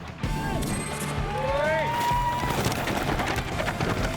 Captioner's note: cheering